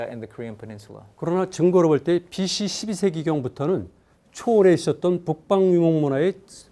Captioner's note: speaking in Korean